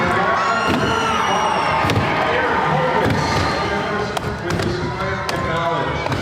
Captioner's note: announcer calls event as crowd cheers